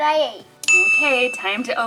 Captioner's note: ding